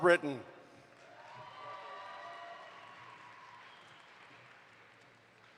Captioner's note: audience applauds